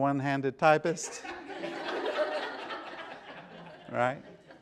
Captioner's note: laughter